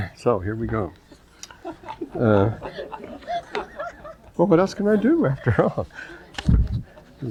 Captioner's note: laughter